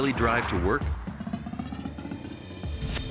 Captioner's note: traffic roaring; upbeat music